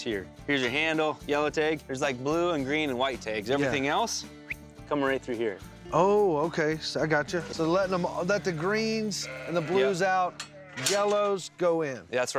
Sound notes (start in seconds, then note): 4.4 whistles